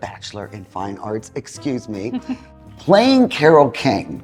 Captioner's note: chuckling